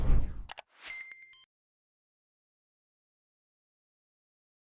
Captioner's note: digital tones beeping